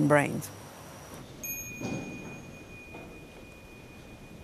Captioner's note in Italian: suono di campana